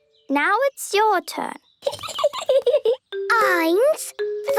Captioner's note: Peppa giggling